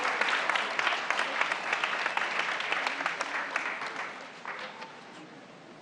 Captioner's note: applause